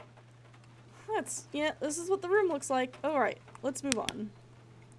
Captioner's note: flashlight Clicks Off